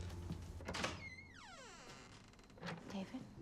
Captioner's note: door creaks